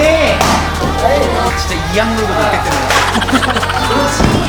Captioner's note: haha